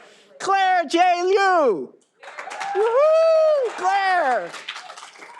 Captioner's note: all applauding